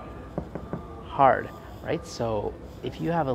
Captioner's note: knock sound